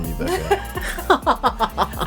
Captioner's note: laughing